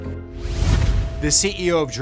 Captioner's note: logo whooshes